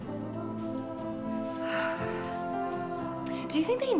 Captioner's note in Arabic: تتنهد إليزابيث